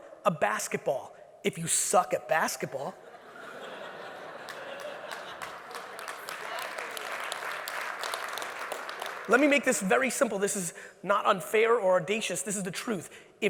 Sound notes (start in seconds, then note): 3.0 audience laughing; 4.2 audience applauds